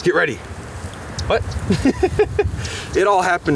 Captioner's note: laughing